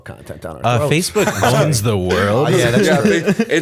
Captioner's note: chuckle